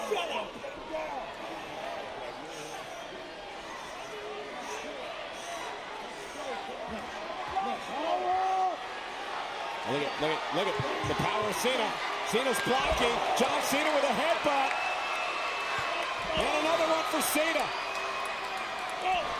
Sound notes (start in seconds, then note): 6.6 crowd clamors